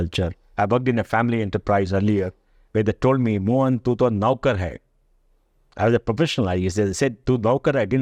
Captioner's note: speaks in Hindi